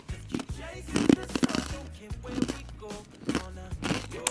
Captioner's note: crunching and munching